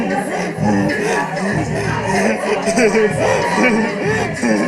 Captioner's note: laughing